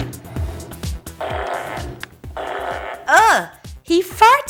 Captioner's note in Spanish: Suena un pedo